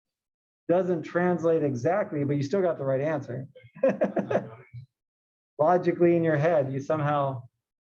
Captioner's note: laugh